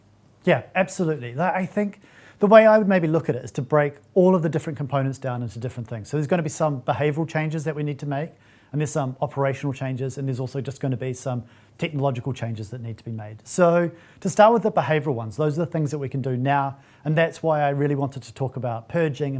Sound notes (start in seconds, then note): none